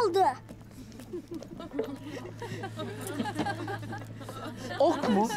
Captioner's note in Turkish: Gülme sesleri